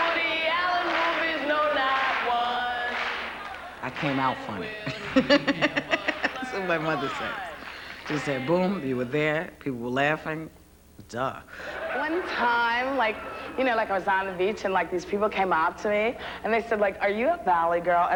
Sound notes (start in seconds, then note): 4.6 laughing; 13.3 talking as a valley girl